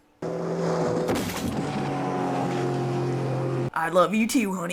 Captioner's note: motorboat engine